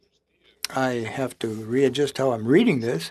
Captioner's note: speaking French